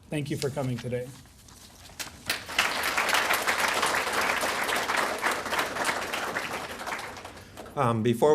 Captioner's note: applause